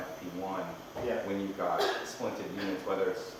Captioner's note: coughs